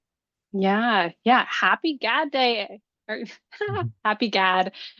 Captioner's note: laughs